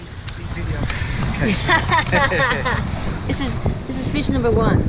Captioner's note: both laughing